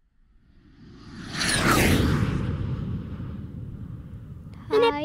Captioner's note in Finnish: lentämisen ääniä